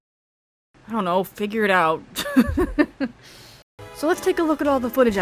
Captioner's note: laughing